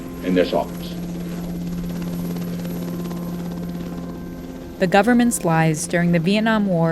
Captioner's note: soundbite of helicopter rotors whirring